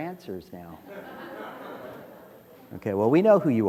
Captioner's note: laughter